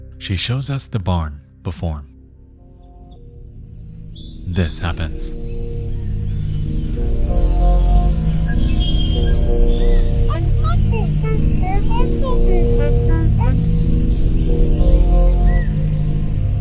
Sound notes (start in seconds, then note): 5.9 birds chirping; 5.9 uneasy music; 10.4 Mother beeping